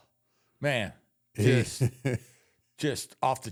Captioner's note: The Undertaker laughs